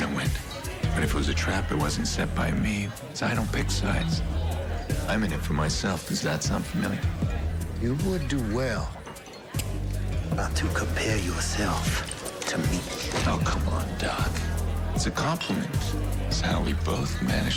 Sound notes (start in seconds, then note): 8.6 gun clicking